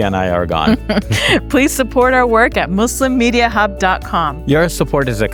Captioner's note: chuckles